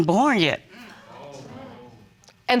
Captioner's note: audience exclaiming